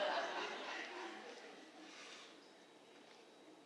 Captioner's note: laughter